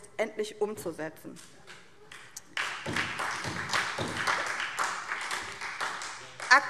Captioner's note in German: Beifall SPD